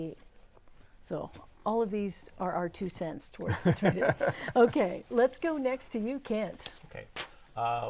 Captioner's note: laughing